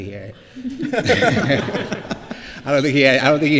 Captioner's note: laughter